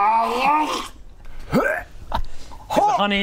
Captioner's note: hyuargh